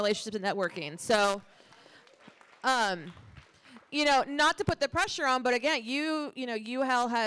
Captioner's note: applause